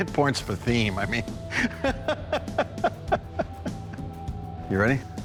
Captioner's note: laughs